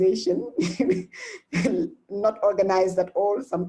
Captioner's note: laughs